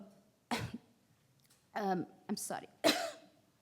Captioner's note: coughing